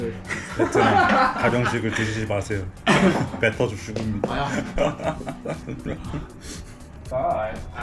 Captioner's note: laughs